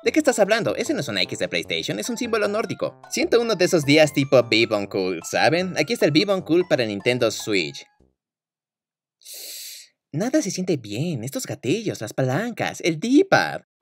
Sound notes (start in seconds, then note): 9.2 inhale of disgust